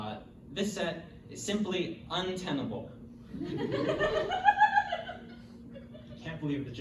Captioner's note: audience laughter